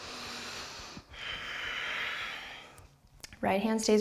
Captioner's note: strong breathing